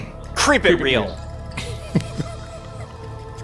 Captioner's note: in Unison; laughing